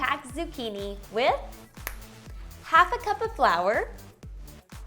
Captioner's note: snapping